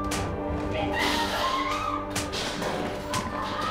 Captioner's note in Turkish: Kadın çığlık atıyor